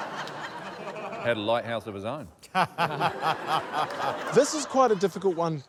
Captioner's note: laughter